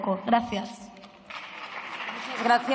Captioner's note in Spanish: Aplausos